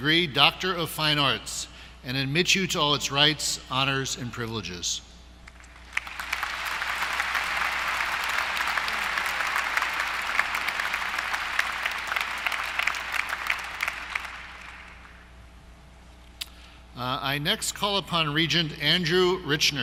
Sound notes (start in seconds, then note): 5.4 applause